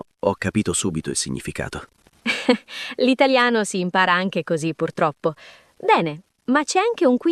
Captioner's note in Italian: risate